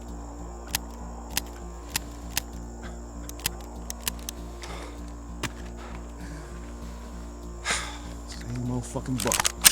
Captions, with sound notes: (clicking) (laughing) (clicking) (sighs) (thud) Same old fucking Bo.